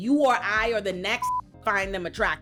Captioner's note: beep